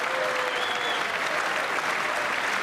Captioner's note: applause